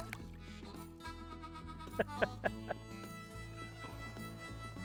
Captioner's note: laughing